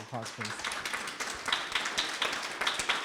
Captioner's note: applause